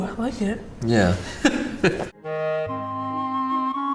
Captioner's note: laughs